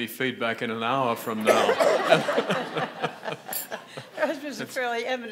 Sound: audience laughing

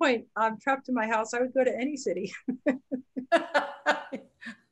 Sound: laughs

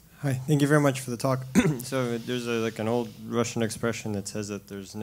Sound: cough

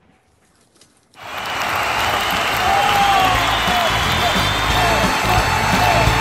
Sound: applauds

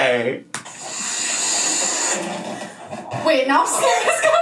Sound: air hissing

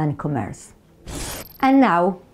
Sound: slide screeches

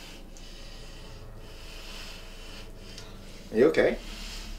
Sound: inhaling deeply

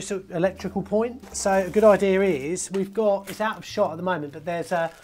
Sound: plastic rustling

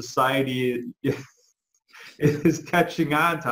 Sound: chuckles out loud

